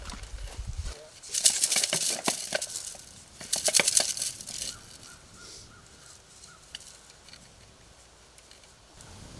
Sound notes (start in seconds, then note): 1.2 tube clattering